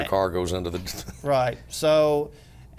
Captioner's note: laughter